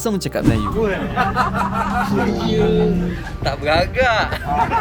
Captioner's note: laugh